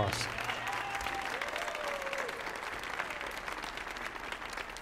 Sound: audience applauding

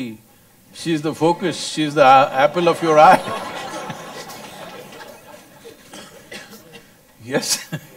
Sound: laughter; laughs

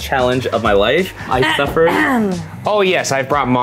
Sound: coughs

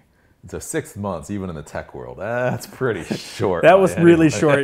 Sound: laughs

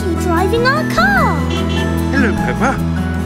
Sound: honking

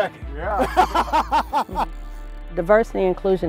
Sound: laughs

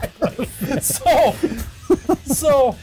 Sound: laughing

